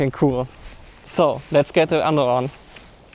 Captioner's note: mixedup english & german